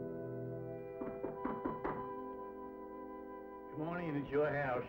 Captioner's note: knocking